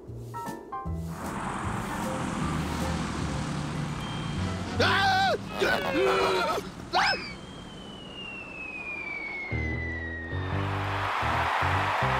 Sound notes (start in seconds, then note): 4.7 groaning; 4.8 screams; 10.6 crowd cheers